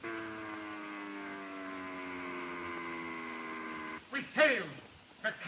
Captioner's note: airplane engine roaring